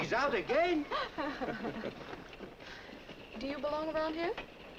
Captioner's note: laughing